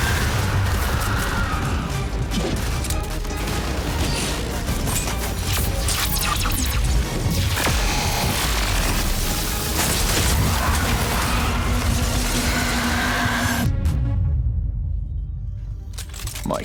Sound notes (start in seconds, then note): 2.0 explosions; 2.0 vampires screeching; 9.2 electricity crackling